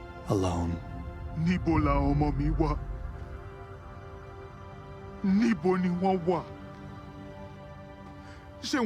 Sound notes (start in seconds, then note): 1.1 speaking Yoruba